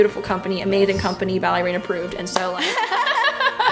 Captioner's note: laughs